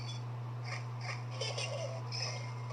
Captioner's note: Luxo Jr. Giggles